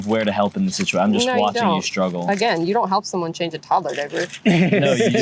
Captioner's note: laughter